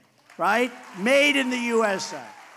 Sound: applause

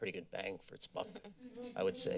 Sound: laughter

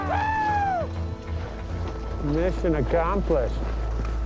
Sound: yelling

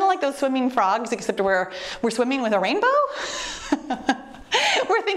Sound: laughs

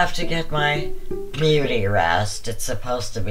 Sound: sarcastically

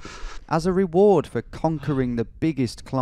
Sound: voiceover

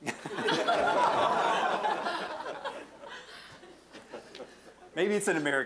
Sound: audience laughing

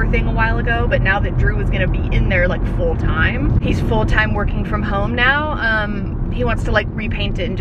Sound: none

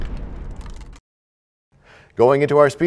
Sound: crashing sound

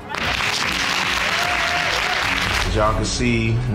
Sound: audience clapping

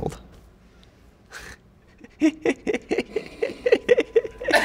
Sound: giggles

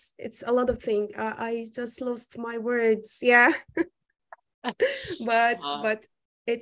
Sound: laughs

